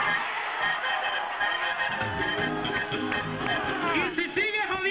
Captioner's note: crowd cheers